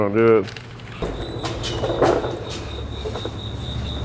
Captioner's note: squeaking